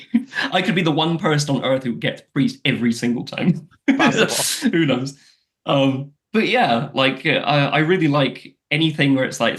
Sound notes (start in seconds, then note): 3.8 laughs